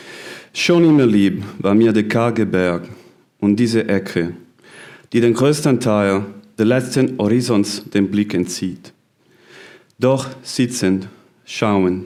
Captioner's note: German translation is recited